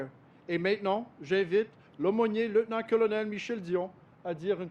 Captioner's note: speaks French